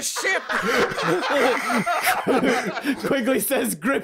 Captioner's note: laughter